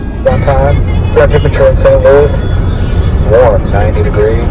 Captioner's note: muffled speaking over the radio